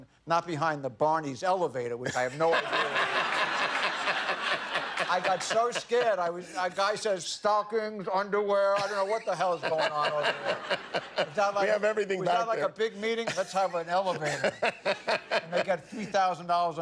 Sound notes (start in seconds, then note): 6.4 laughter